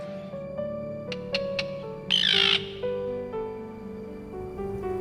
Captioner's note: tern screeching